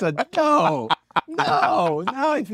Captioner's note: laugh